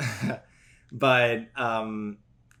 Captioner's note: laughs